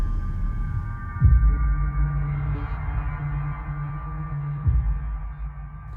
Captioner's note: none